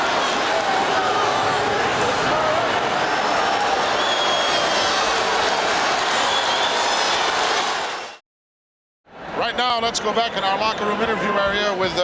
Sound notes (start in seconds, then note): 0.0 audience cheering